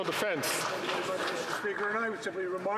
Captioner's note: some Applause